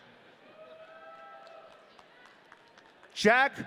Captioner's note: audience cheering